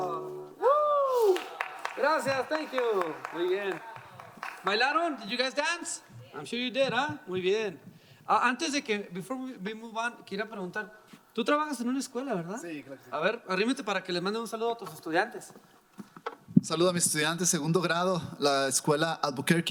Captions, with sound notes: (audience applauding) - Thank you. Did you guys dance? I'm sure you did. Before we move on. (speaking in foreign language)